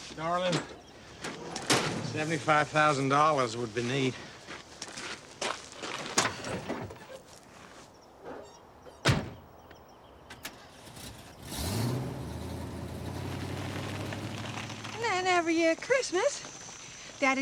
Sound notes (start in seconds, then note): 9.7 birds chirping; 10.7 engine revving